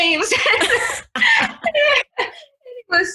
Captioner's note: both laugh